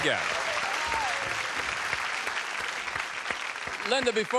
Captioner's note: applause